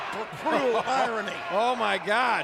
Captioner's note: laugh